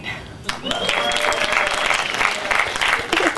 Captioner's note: applause